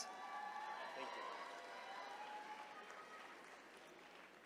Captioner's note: attendees cheering